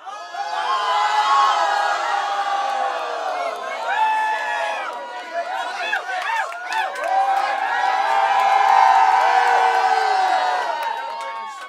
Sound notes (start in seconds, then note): 0.5 crowd; 7.3 crowd cheering